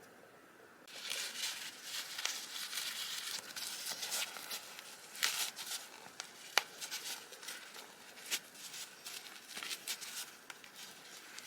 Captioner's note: crinkle sounds